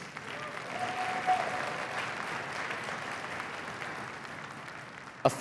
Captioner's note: cheering and applause